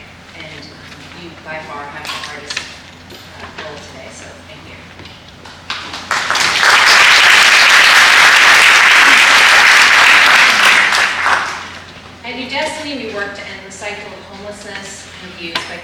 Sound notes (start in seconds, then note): 5.8 applause